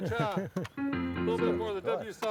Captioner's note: laughs